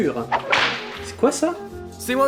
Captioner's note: whip noise